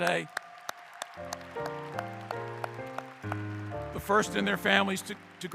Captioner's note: clapping